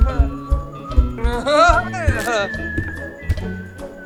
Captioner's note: chuckling